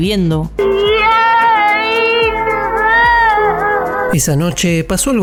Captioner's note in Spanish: llanto desgarrador